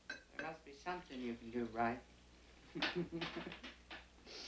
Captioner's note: chuckling